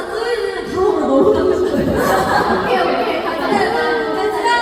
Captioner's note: laughs